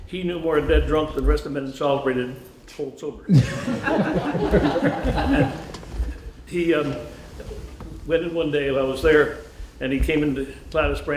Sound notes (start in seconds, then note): 3.3 laughter